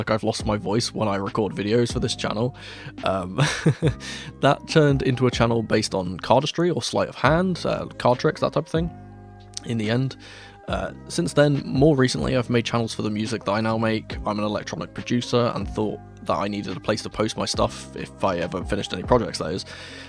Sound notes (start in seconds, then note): 3.4 laugh